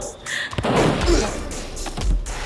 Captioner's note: gun fires